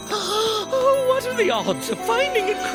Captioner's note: gasping